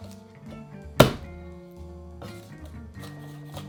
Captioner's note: knife smashing